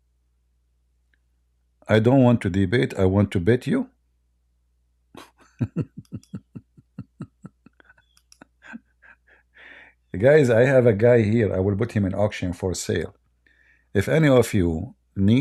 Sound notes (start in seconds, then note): 5.1 Ketawa